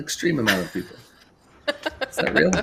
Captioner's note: laughs